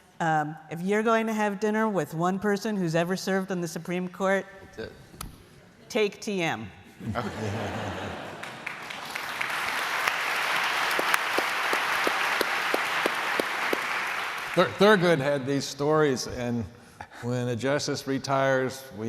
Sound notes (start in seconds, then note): 7.0 laughter; 11.6 applause